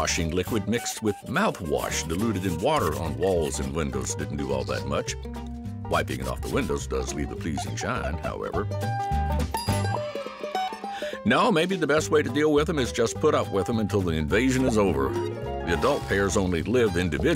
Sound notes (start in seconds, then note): 9.5 bell dings